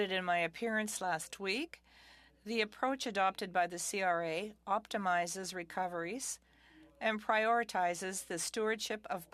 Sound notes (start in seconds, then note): 1.0 speaking French